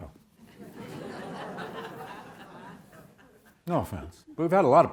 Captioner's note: audience laughs